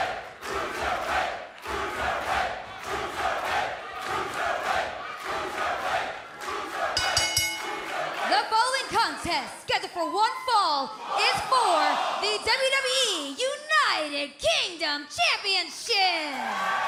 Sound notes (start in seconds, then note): 7.0 bell ringing